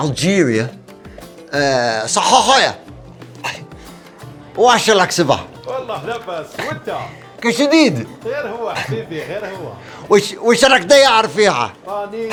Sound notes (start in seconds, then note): 1.8 algerian dialect